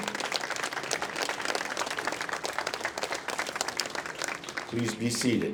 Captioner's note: applause